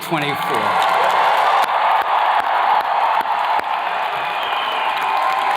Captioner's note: attendees cheers and claps